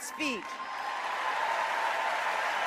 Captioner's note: applause